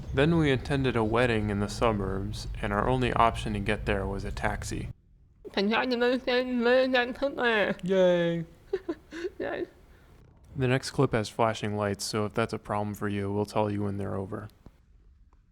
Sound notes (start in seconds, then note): 7.3 laughing